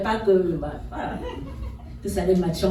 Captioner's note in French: rires